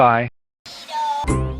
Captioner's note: Minion voice